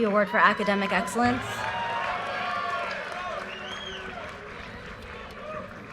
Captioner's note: audience cheers and applause